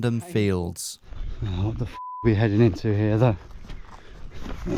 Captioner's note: beep